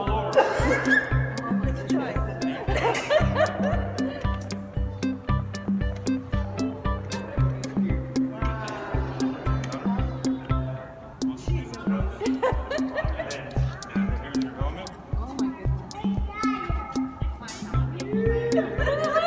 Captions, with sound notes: Don't fall over I'm gonna try [laughs] Wow Here's your helmet